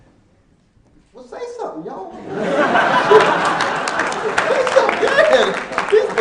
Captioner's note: laughing